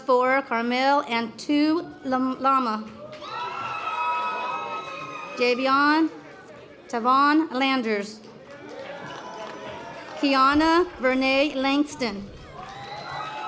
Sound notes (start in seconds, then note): 8.4 audience applause; 12.3 audience applause